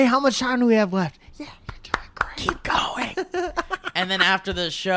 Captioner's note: claps